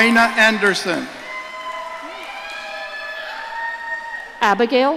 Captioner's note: audience cheering